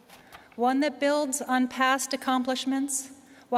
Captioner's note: none